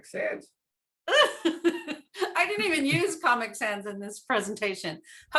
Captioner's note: laughs